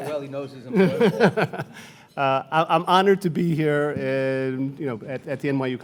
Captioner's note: laughs